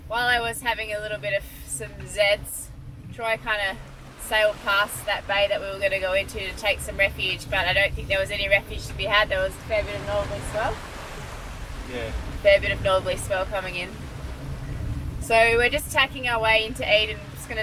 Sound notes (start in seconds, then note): 3.9 water splashing; 11.4 waves gently gushing